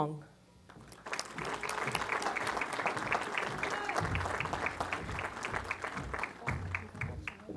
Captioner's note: applause